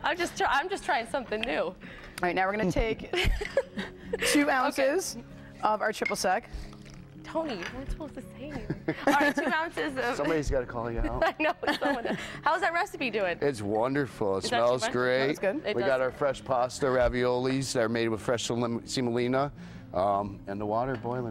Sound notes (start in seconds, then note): 8.5 laughter